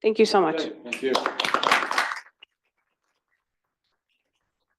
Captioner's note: audience clapping